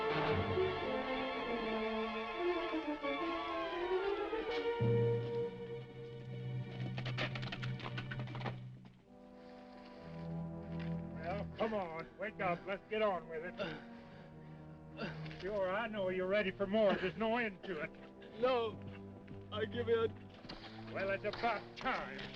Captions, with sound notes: (horse hooves clopping) (dramatic music) (horse hooves clopping) (dramatic music) Well, come on, wake up, let's get on with it. (Cooncat moaning) Sure, I know you're ready for more. There's no end to it. - No, I give in. - Well, it's about time.